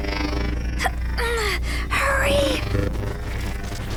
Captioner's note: lines buzzing